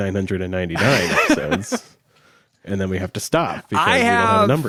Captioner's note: laughs